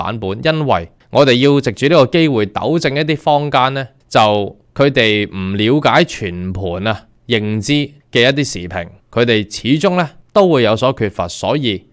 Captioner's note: Cantonese